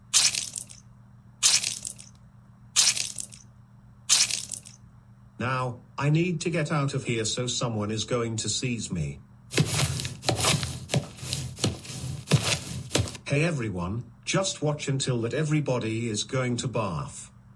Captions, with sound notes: [Pouring] Now, I need to get out of here so someone is going to sees me. [Footstep on a Concrete] Hey everyone, just watch until that everybody is going to barf.